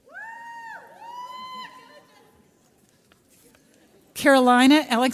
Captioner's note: audience cheers